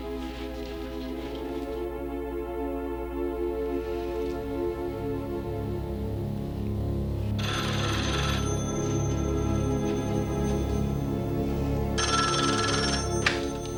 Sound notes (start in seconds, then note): 7.4 phone rings